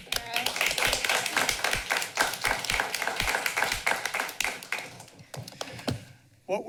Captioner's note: applause